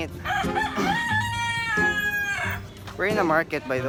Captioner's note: rooster crowing